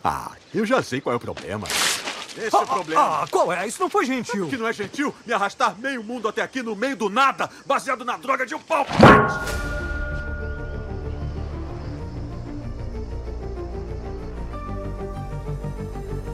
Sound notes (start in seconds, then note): 8.9 metal clangs; 12.5 triumphant music playing